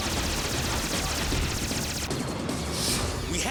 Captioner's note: artillery fires